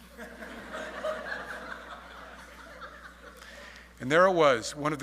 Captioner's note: audience laughing